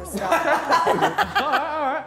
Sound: all laughing

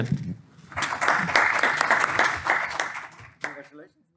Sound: applause

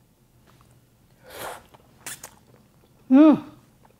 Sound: slurps

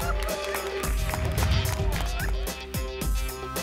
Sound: applause and cheering cont; whoosh

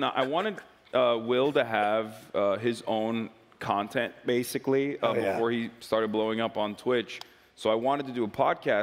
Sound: laughs

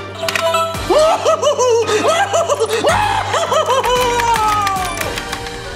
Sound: clanking; beeping; hysterically laughing

